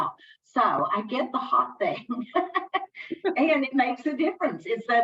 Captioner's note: laughing